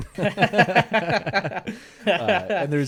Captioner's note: laughing